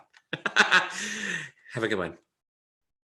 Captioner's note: laughing